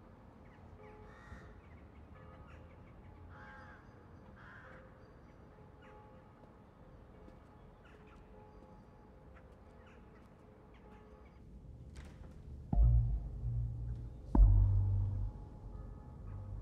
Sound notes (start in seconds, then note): 4.2 crows squawking, church bell continues ringing; 12.7 mysterious music